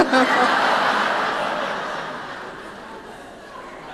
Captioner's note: laughing